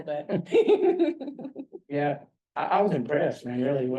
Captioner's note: laugh